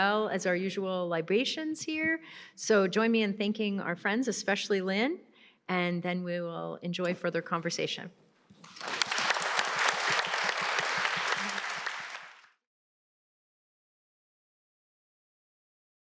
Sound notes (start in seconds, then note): 8.5 applause